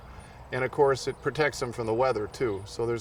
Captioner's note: birds chirp